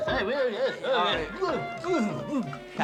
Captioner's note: gagging